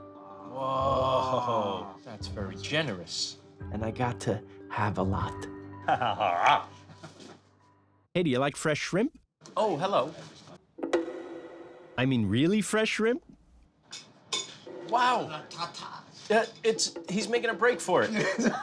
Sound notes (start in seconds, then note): 5.8 chuckles; 18.1 laughs